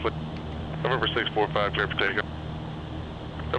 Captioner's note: radio